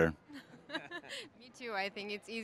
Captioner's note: both laughing